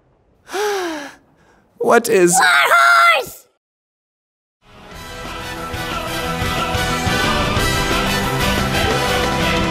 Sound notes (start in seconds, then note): 0.4 sigh